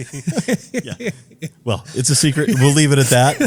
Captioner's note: laugh